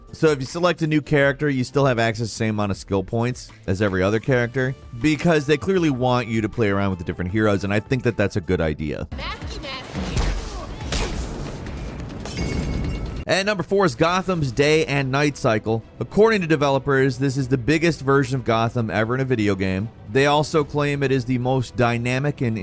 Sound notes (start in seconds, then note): 10.1 electric zapping; 12.1 glass breaking